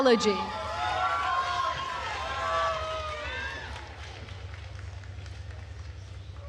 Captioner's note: attendees cheering and applauding